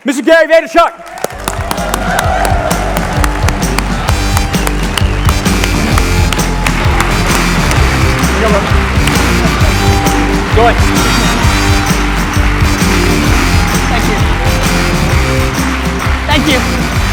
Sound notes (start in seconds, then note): 2.0 audience applause and cheers; 3.7 upbeat music